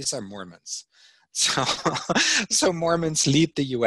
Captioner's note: laughing